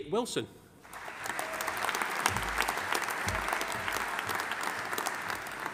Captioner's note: audience applauding